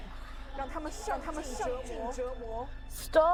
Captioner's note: Mandarin language